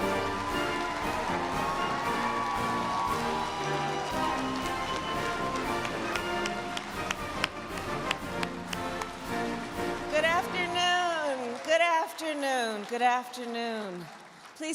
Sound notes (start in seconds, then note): 4.7 Kamala clapping; 4.7 bright upbeat music